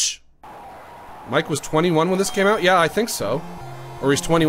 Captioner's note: normal voice